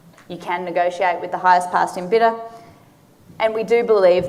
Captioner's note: none